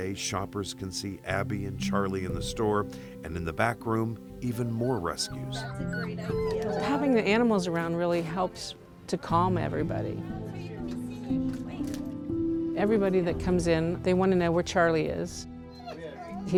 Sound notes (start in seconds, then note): 4.8 dogs whining